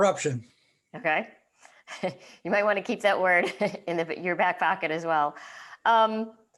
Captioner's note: laughing